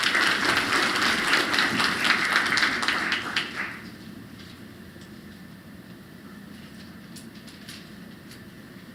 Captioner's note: applause